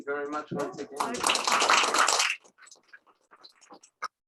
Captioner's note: applause